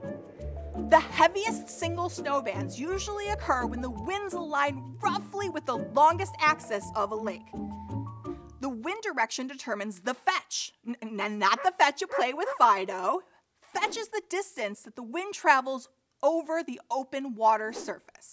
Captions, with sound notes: The heaviest single snow bands usually occur when winds align roughly with the longest axis of a lake. The winds direction determines the fetch- (dog barks) not the fetch you play with Fido. Fetch is the distance the wind travels over the open water surface.